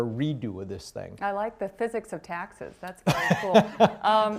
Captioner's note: laughter